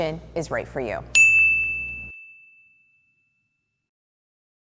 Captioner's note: bell ringing